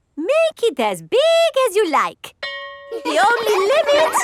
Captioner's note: school bell rings; children laughing